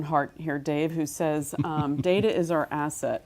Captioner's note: laugh